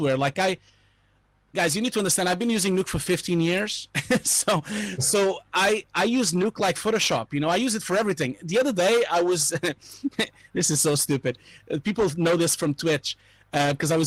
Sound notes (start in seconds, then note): 4.0 laughing